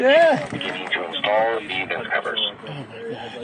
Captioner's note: person On Radio